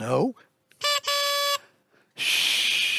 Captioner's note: school bus horn